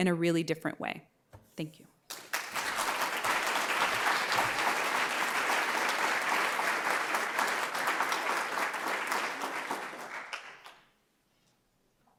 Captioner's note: applause